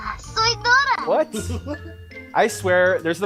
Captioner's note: laughs